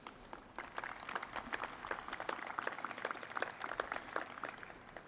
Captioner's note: crowd applauding